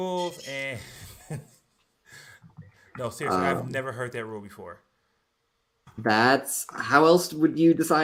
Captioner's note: laughs